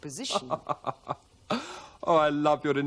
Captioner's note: chuckles